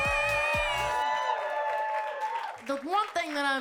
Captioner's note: audience cheering and clapping